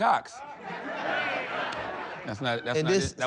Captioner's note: audience laughing